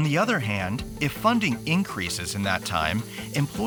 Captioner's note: steam releasing